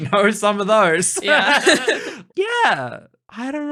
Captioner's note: laughing